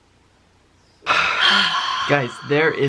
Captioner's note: both sigh